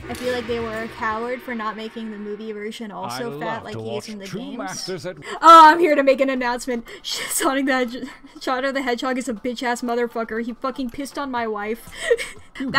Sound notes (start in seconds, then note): 5.2 through laughter; 11.9 giggles